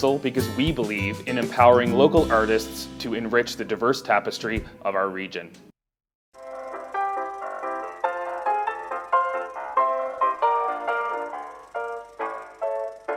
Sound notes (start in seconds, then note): 6.4 uptempo ragtime music; 7.4 film reel catling